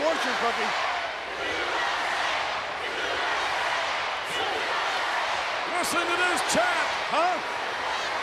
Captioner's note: applause